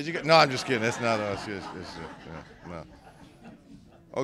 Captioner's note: laughter